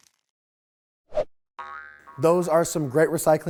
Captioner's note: graphics crinkling; air whooshes; globe boinging